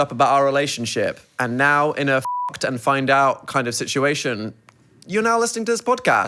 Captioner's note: beep